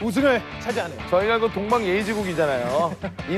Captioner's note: haha